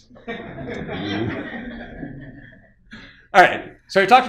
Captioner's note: audience laughing